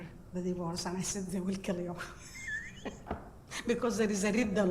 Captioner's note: laughs